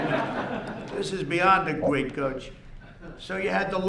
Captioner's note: laughter